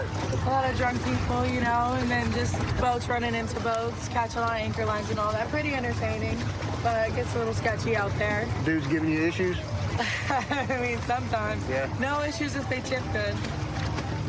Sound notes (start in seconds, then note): 9.9 laughs